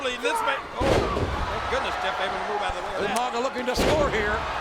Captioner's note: body thuds